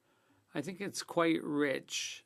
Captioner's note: speaking French